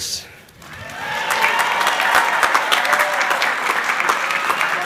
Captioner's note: crowd cheering